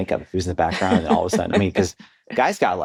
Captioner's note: laughs